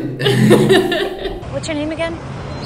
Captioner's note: everyone laughing